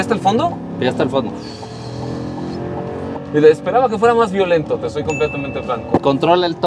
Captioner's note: engine revving